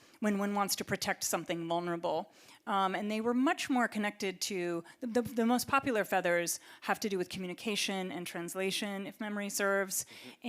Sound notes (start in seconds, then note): none